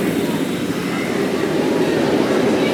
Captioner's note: none